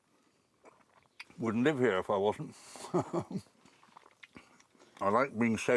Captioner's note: chuckles